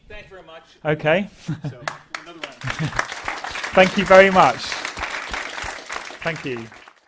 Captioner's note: applause